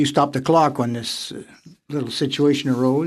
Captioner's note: speaking French